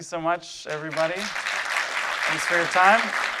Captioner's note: audience applauding